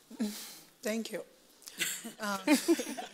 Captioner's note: laughs